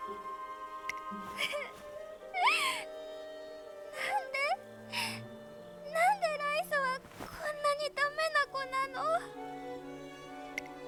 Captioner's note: sniff